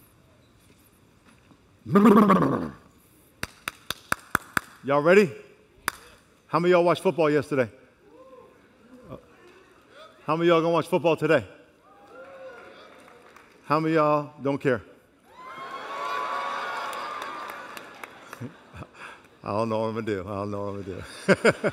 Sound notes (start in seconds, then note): 16.0 applause